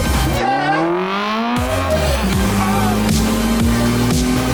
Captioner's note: engine revving